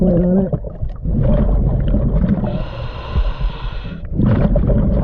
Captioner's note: breaths gurgling